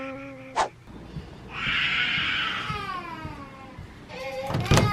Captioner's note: crying